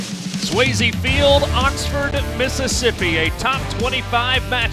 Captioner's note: voiceover